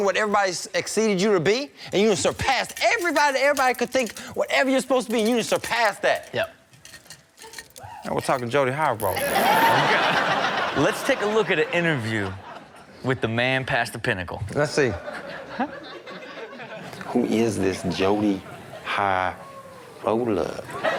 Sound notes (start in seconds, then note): 9.2 audience laughing; 9.4 watch rattling; 16.2 Rob chuckles